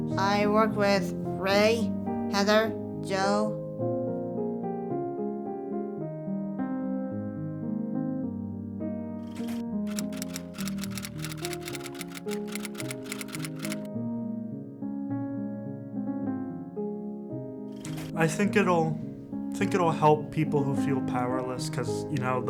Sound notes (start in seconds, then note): 5.5 emotional piano; 9.8 typewriter keys